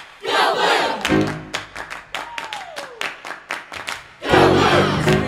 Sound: clapping

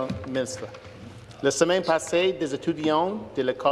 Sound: speaking French

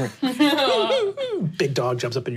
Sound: whimpering

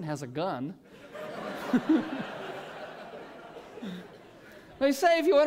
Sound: laughter

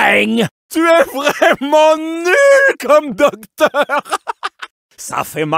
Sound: laughing; laughing again

